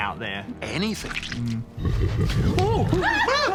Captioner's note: laughs menacingly